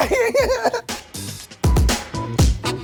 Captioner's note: laughing; uplifting music